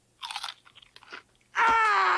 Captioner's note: crunching; yelling